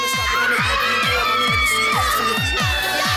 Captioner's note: screaming